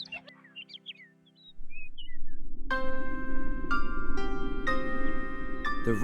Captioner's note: wind Blowing